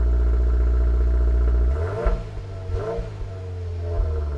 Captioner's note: engine revving